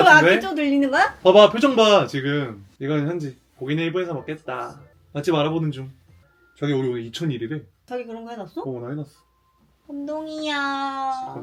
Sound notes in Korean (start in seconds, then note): 6.2 갑자기 알람 울린 휴대폰